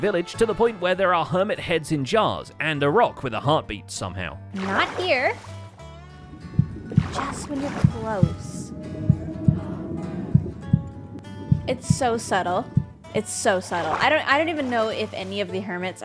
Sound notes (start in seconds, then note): 6.2 conduit heartbeat